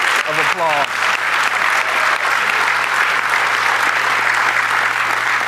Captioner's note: audience applauding